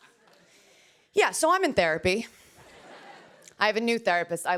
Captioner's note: laughter